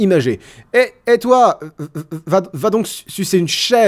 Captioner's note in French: Voix d'imitation